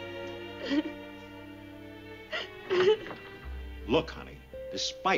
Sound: sobbing

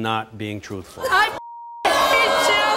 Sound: audience cheering; women yelling

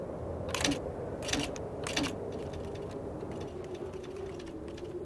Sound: keys clack

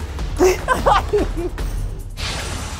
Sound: laughter ensues

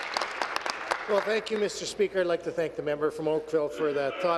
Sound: applause

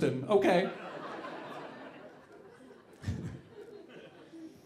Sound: audience laughing

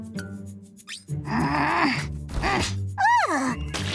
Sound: grunting; growling

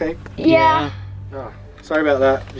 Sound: in Unison

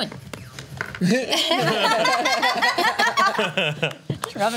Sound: laughs

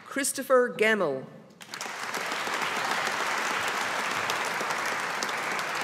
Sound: audience applauding

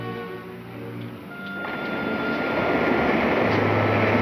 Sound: whirring

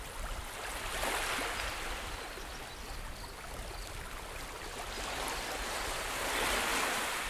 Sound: waves crashing

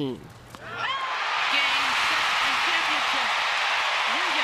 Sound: cheering and applause

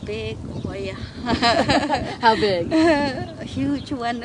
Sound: laughs

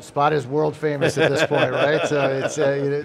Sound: laughs

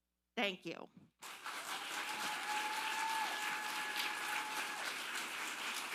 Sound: audience applauding

